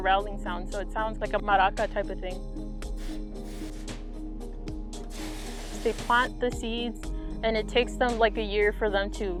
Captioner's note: water spraying